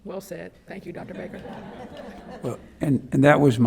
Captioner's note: members laugh